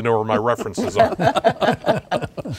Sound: laughing

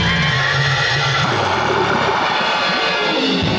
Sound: sighing

